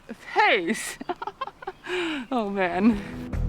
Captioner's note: laughs